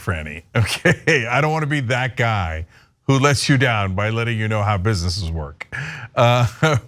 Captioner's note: laugh